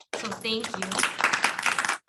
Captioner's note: applause